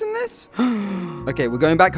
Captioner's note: audible Gasp